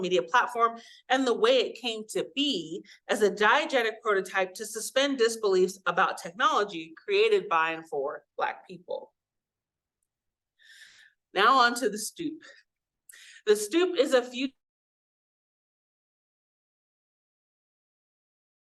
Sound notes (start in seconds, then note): 14.6 audio cuts out